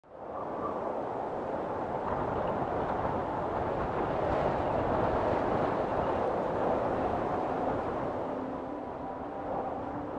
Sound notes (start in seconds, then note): 0.0 waves crashing; 6.2 gentle music